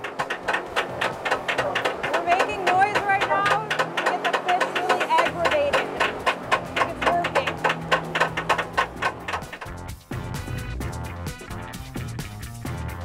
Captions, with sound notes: (banging noises) We're making noise right now to get the fish really aggravated. I think it's working. (upbeat music)